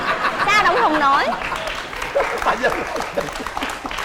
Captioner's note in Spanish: risa y aplauso